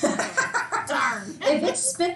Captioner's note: laughs loudly